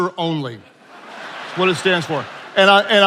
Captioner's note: attendees laughing